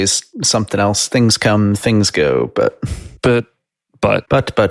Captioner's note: sighs